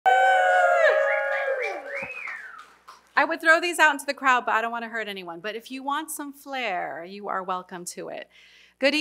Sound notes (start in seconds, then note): 0.1 applause